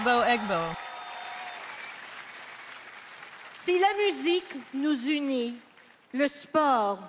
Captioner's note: speaking French; applause